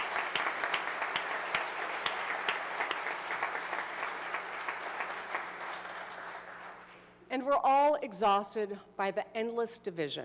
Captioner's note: applause